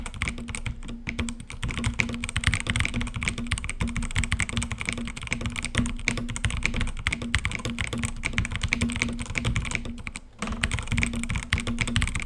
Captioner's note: keyboard sounds